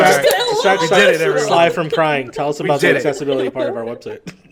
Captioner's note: laughter